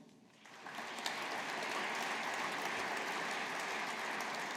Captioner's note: audience applauding